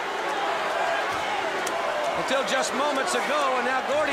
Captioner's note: crowd chatter